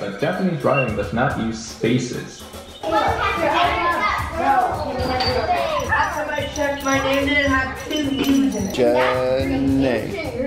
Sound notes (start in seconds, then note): 2.4 kids chattering